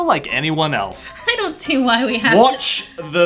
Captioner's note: laughing